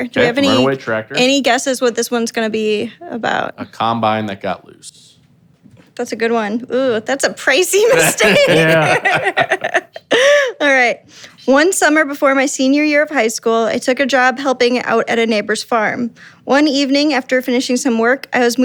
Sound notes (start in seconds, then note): 9.7 laughing